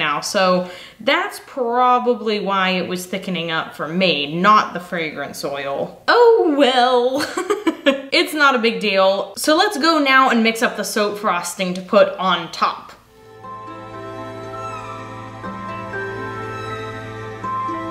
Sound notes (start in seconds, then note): 6.5 laughs; 13.1 soft music